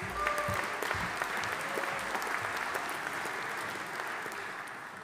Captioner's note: audience applauding